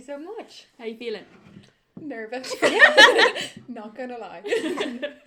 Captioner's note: laughs